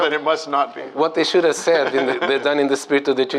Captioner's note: laughter